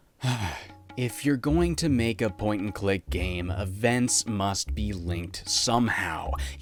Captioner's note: sigh